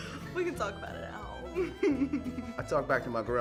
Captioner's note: laughs